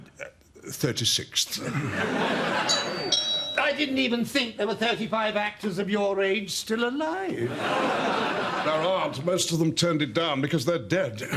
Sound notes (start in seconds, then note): 2.6 doorbell